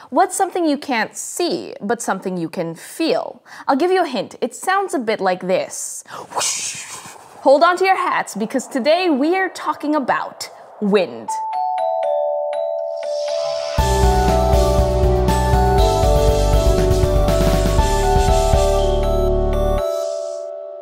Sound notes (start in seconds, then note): 6.2 woooshhhhhhh